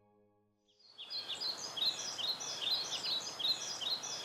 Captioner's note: birds chirp